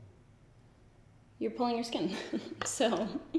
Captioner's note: giggles